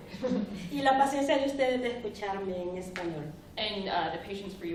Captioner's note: speaking spanish